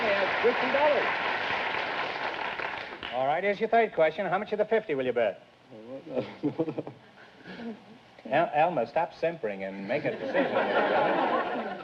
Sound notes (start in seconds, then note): 5.6 whispering